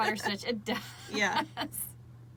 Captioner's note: laughs